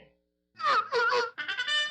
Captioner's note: seal barking